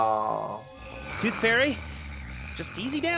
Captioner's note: Toothfairy gnarls